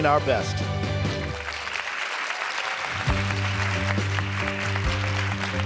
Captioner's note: audience applause